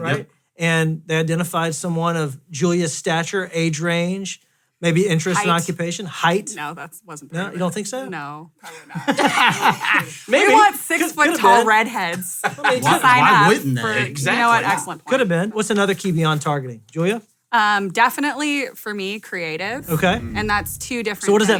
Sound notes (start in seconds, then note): 8.7 all laughs